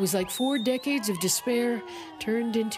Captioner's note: cheers and Applause